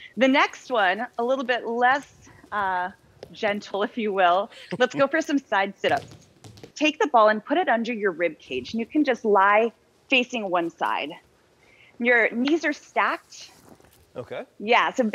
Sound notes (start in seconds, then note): 5.8 bouncing sound